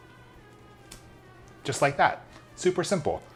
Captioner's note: pops